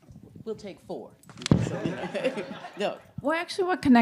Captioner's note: group laughing